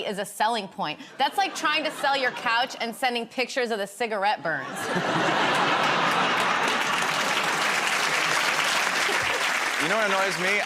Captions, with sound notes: as a selling point. That's like trying to sell your couch and sending pictures of the cigarette burns. [ Laughter ] [ Applause ] -You know what annoys me?